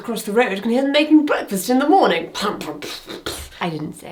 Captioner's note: imitates banging